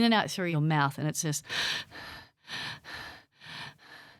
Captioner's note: breathing